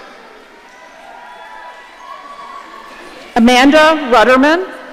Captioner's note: audience cheering